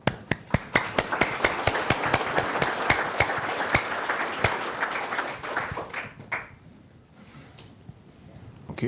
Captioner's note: applause